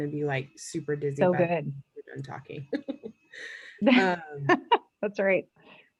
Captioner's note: murmurs